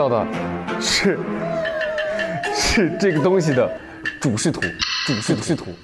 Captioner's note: laughing just thinking about what to say